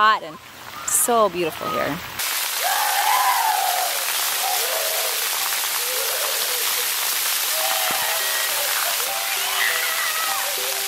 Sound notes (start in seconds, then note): 2.5 children scream